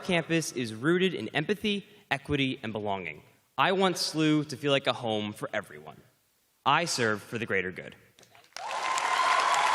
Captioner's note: cheers and applause